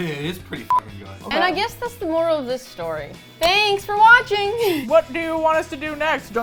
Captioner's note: laughs; mouth full